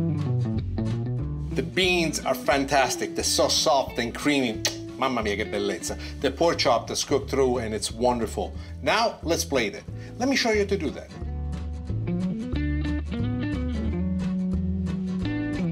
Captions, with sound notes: The beans are fantastic, they're so soft and creamy. (kisses) (in Italian) Mamma mia, che bellezza! The pork chop, that's cooked through and it's wonderful. Now let's plate it. Let me show you how to do that.